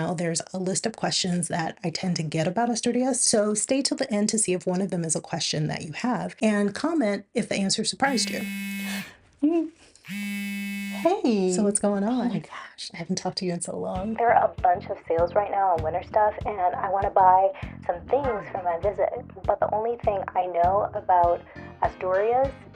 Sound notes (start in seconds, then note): 10.0 phone vibrating